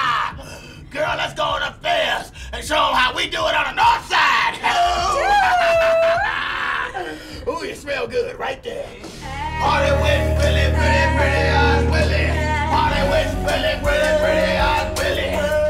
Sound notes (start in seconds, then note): 9.2 sniffs